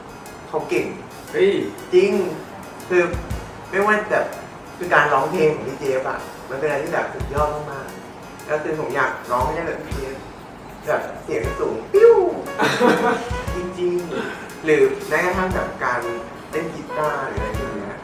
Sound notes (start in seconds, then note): 9.8 pheww; 12.2 laughs